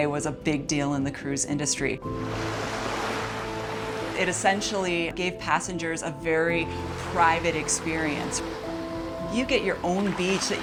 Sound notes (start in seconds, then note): 2.1 waves crash